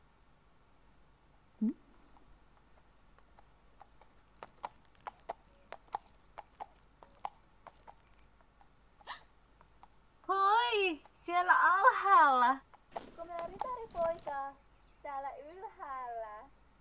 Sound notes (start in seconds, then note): 2.0 sound of hooves approaching